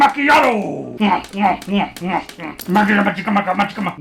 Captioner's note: gulping